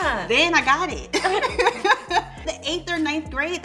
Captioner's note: women laugh